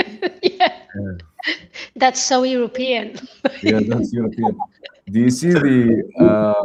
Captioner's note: laughter